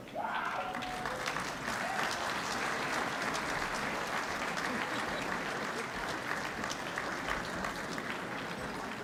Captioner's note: applause